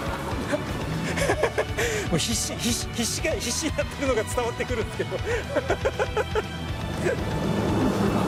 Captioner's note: laughs